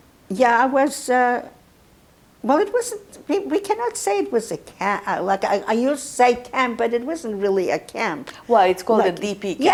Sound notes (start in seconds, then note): 2.3 mumbling